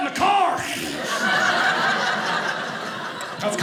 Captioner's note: audience laughing